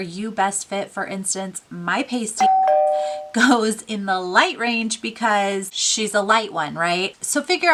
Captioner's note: doorbell